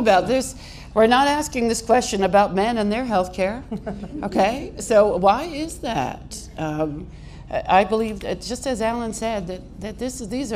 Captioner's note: laughter